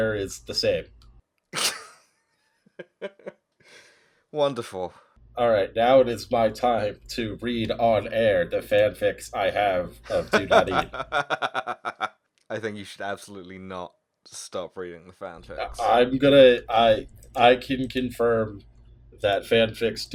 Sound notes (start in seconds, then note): 2.7 laughter; 10.2 laughter intensifies; 14.1 slurring